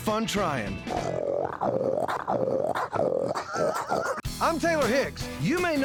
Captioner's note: imitates a hog grunting